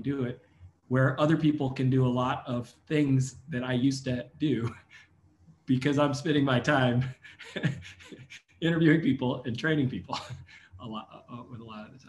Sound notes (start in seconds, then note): 6.8 laugh